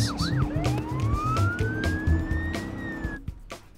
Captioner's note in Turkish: Polis siren sesi